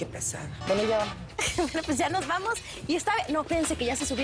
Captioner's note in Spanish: Riendo